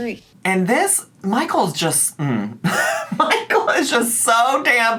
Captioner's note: laughing